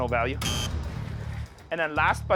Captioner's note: buzzer blares